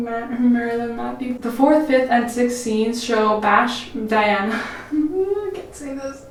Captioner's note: laughs